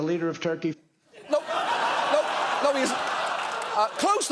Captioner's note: audience laughing